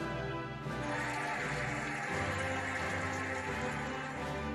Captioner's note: cheering and applauding